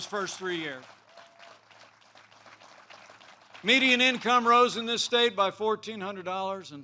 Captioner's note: applause